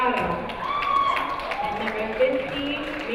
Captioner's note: crowd cheering